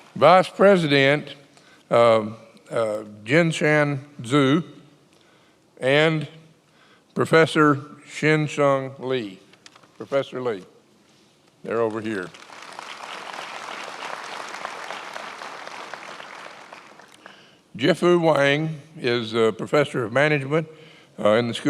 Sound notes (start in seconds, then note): 12.1 attendees applauding